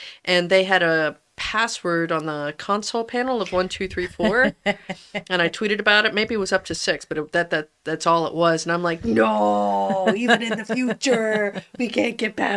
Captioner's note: laughs